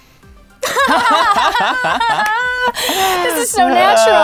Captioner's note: laughing